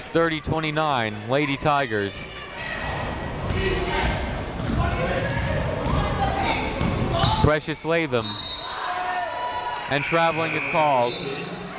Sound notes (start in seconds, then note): 1.8 people shouting in the crowd; 8.2 whistle tweeting